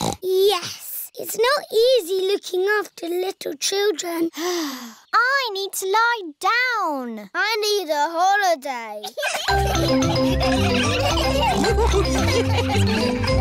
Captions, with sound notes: Yes. It's not easy looking after little children. (SIGHS) I need to lie down. I need a holiday. (ALL LAUGHING)